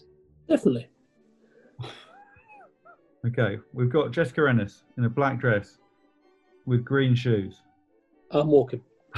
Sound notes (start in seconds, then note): 1.8 sniggering